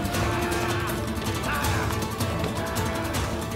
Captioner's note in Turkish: Bağırıyorlar